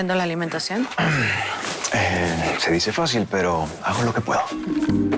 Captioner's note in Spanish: Carraspea